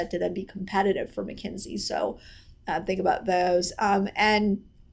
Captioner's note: none